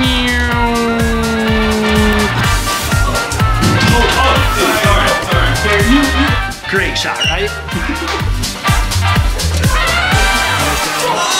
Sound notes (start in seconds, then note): 3.3 doors clicking; 7.7 person laughs